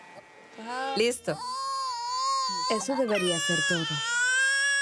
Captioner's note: Arabic spoken audio